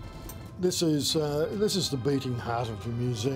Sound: male Speaking

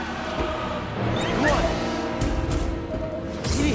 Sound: urgent beep

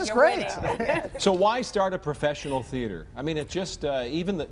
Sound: laughter

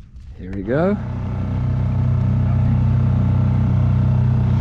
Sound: motor whirring

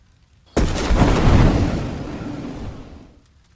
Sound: wind gushing

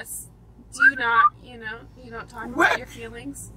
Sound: driver whistles

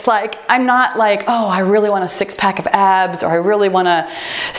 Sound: timer beeps

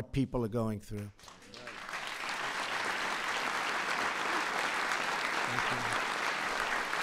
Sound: applause

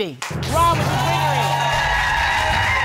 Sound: audience cheering

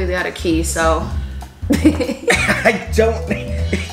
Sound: laughing

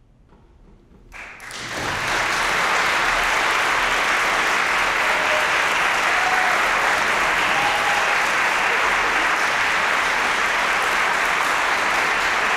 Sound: applause, cheering

